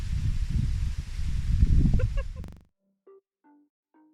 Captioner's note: laughter